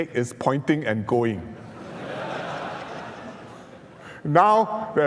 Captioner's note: laughs